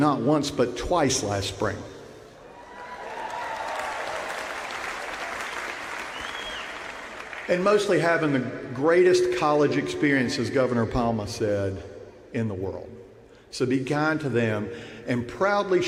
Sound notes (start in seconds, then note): 4.8 cheers and applause